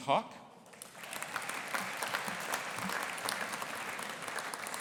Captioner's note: audience applauding